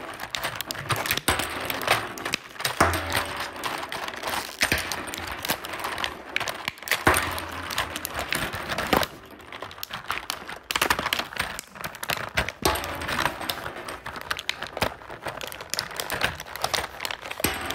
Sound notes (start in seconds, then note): 10.0 plastic scrunching continues; 13.9 Beanz rattling continues